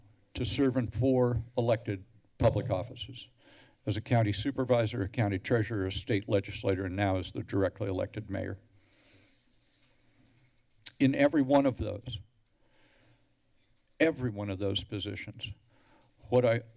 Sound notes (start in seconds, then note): 10.8 tongue clicks